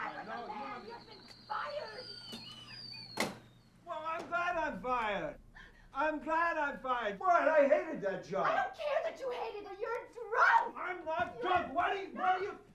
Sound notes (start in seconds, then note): 3.0 whistles